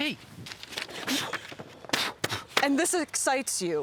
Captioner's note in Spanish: Jonathan soplando